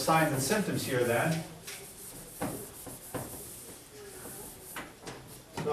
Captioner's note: eraser scrapes on board